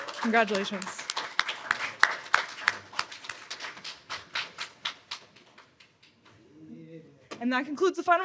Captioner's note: applause